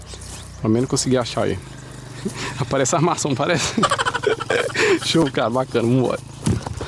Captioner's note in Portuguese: risadas